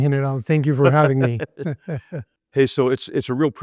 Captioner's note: laugh